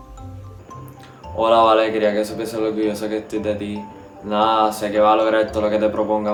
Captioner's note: speaking in foreign language